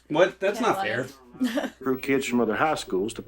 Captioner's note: chuckles